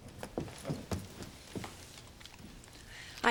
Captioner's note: none